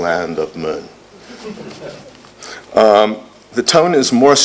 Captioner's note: laughter